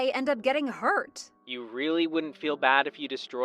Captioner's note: phone vo